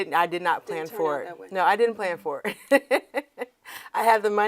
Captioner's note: laughs